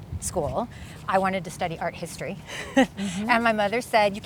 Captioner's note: chuckles